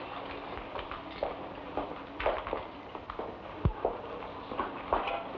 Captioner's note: footsteps patter